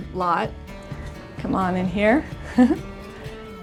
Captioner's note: chuckles